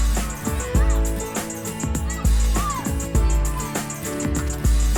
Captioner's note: lively music; campers excitedly chattering